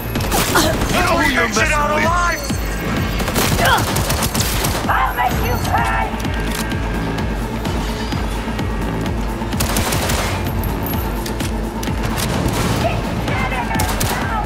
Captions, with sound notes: - You don't mean you're made out alive! - I'll make you cry! (gun firing) - Keep getting her, now!